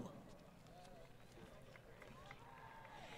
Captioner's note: applause